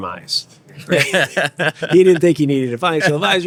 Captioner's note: laughing